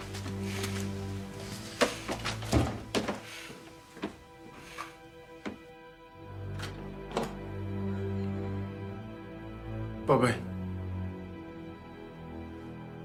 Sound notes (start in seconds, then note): 0.2 dramatic orchestral music continues; 6.4 door clicking